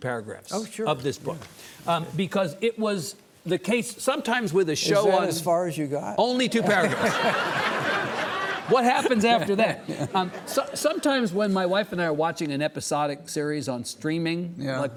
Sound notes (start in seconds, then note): 6.6 audience laughing; 9.7 Lawrence chuckling